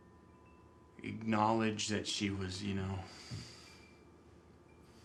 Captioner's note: sighs